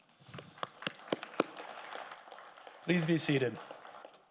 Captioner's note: audience applauding